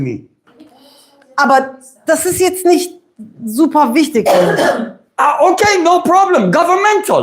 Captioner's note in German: räuspern